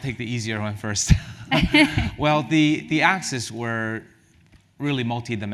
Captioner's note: laugh